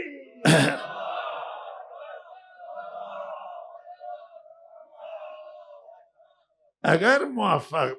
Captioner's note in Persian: گلویش را صاف می‌کند